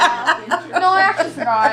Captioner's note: laughter